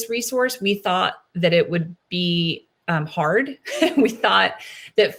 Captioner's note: laughs